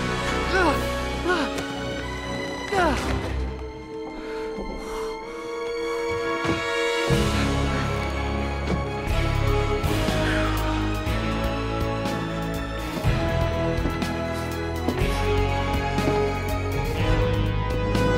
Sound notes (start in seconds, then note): 4.0 exhales; 8.9 triumphant music plays